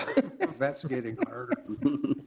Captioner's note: people chuckling